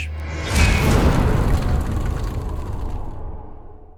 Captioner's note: impact